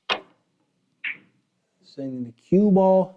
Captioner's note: balls clacks